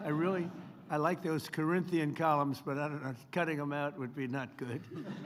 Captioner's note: laughter